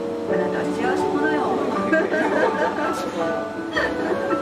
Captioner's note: laugh